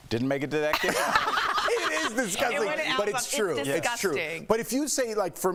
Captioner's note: laughter